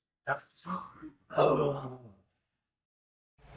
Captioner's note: gasps